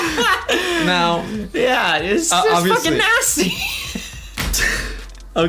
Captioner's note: laughs